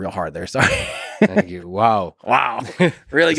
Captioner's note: Tim laughs